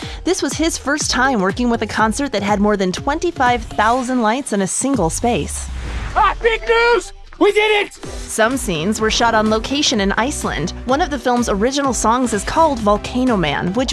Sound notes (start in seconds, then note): 5.2 air whooshing